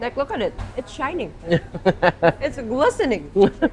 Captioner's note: laughs